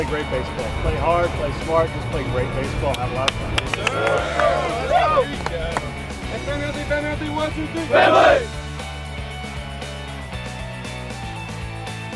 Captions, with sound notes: - Just play great baseball. Play hard, play smart, just play great baseball. Have a lot of fun. (hands clapping) (team cheering) (upbeat music)